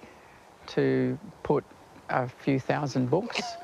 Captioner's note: laughs